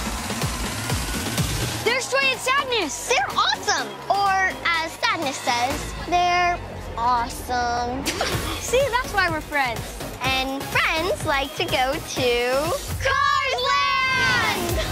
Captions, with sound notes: There's Joy and Sadness. >> They're awesome, or as Sadness says "they're awesome". [laugh] See that's why we're friends. >> And friends like to go to Cars Land.